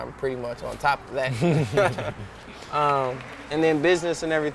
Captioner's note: laughing